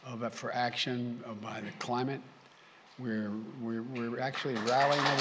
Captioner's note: applause